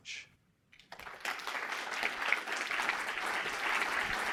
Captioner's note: audience applauding